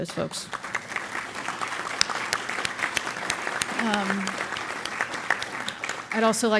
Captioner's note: applause